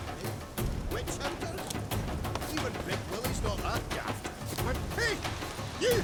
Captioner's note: dwarves conversing